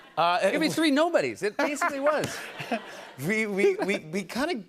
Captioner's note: laughter